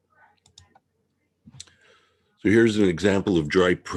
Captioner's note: mouse clicking